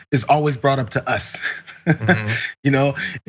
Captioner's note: laugh